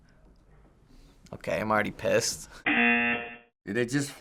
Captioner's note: buzzer